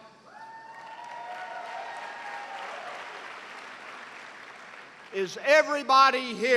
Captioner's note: cheers and applause